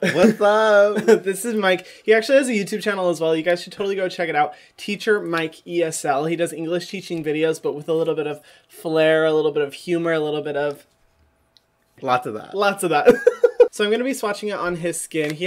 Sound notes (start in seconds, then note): 13.1 laughs